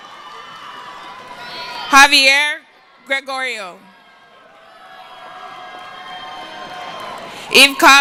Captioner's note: cheering